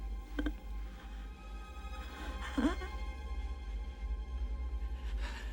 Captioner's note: gasping Slows